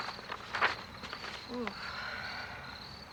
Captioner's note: exhales